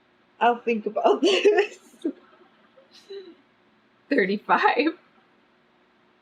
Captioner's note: laughs